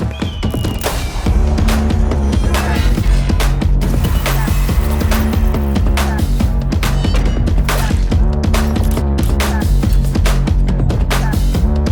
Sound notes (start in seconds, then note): 0.0 upbeat instrumental music continues; 0.1 eagle screeches; 4.1 audience cheers; 4.1 electronic buzzing; 6.3 upbeat instrumental music continues; 8.9 bullets popping